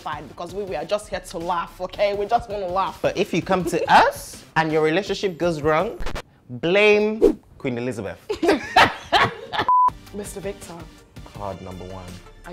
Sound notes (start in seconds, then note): 8.3 laughs